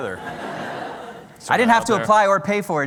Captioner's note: laughter